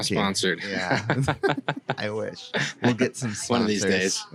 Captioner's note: laughs